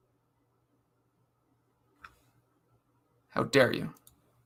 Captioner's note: none